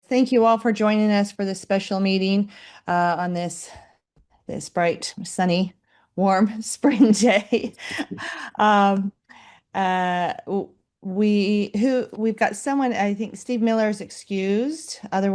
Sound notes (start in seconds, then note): 7.8 laughs